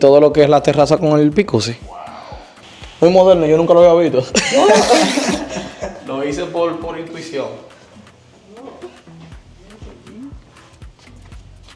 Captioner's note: laughs